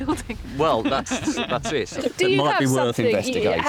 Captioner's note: laughs